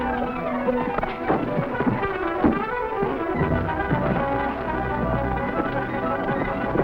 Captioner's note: men rustling; tense music